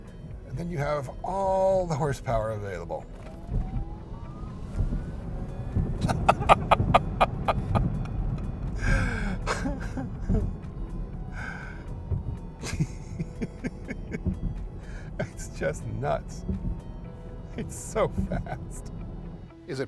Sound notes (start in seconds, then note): 6.0 laughing